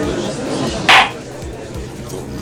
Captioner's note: gallery chattering; gavel slams!